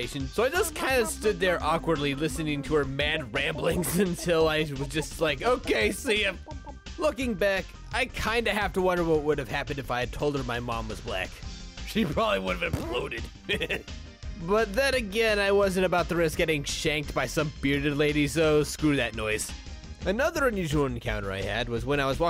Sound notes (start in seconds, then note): 2.3 old turtle lady babbling in background; 12.7 fart sound